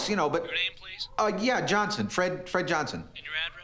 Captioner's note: on phone